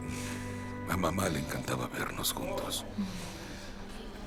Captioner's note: Esperanza resopla